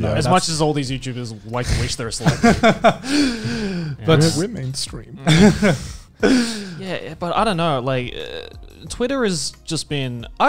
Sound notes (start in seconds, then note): 2.2 both laughing